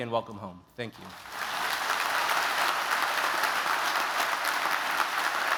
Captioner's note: applause